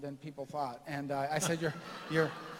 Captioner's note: laughter